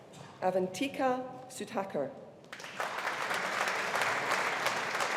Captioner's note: audience applauding